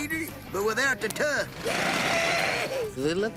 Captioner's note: screaming